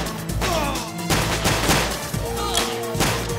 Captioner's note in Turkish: si̇lah sesleri̇